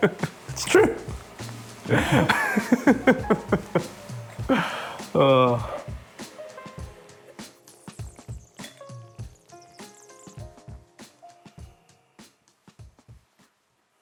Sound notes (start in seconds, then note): 1.8 laughs